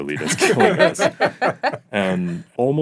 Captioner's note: laughing